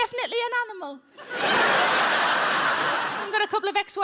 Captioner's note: audience laughing